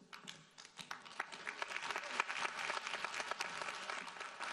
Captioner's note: audience applauding